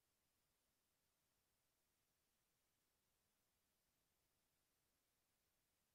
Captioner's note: none